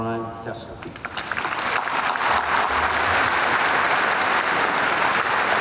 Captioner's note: audience applauding